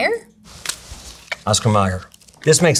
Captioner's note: plastic rustling; package thunks